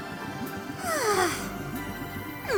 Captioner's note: exasperated sigh